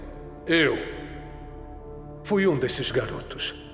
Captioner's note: none